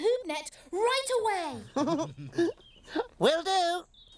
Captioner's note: both chuckling